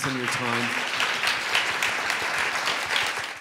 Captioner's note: audience applauds